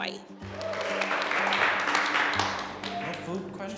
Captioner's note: panelists clapping